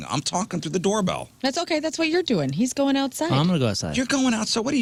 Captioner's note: none